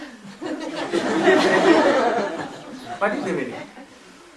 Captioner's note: смех